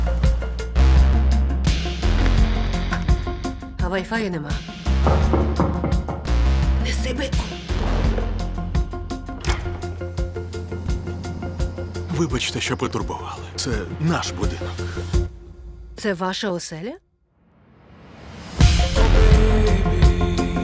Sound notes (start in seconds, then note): 2.0 static buzzing; 5.0 knocking on door; 6.4 whispering; 14.4 song stops